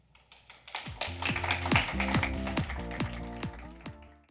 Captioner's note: audience applauds; upbeat music